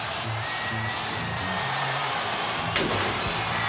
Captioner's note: crowd cheering; pyro booms